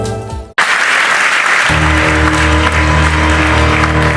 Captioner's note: applause